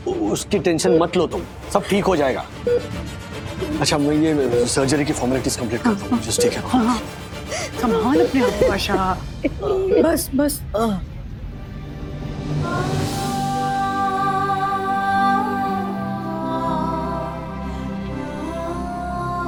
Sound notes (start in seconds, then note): 9.4 Asha sobbing; 12.4 somber music